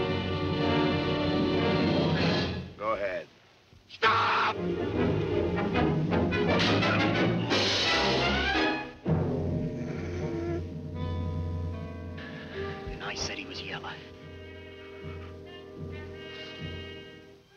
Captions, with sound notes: Well, go ahead! - Stop! (dramatic music) (Urgereff moaning) (dramatic music) - And I said he was yellow. (dramatic music)